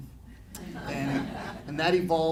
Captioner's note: audience laughing